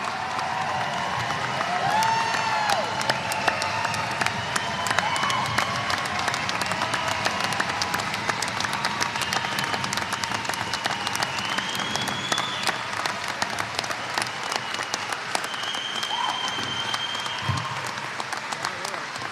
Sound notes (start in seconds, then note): 4.2 applause